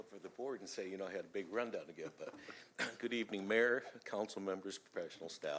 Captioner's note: laughter